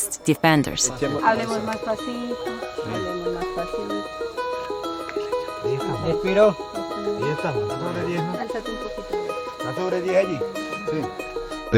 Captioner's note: conversing in native language